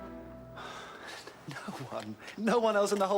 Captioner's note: sighs